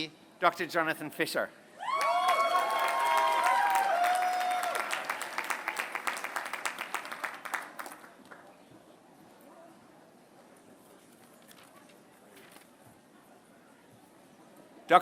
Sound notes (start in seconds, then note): 1.9 applause